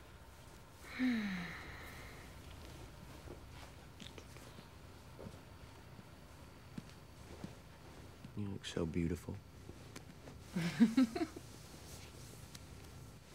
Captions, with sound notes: (sighs) - You look so beautiful. (laughs)